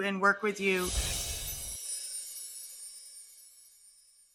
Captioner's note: air whooshing